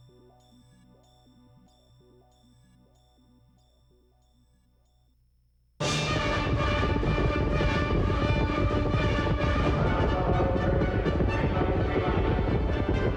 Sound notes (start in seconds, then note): 7.7 hooves pounding